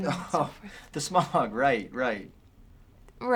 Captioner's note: laughs